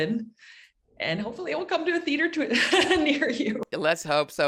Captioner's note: chuckles